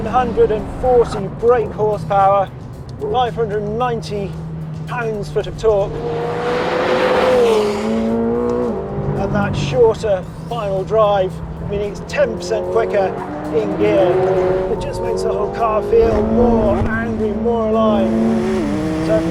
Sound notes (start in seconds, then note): 6.3 car revving